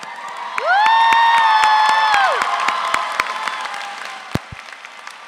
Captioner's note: audience cheers